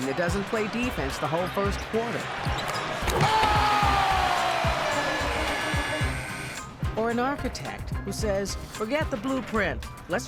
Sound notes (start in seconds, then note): 4.2 audience cheering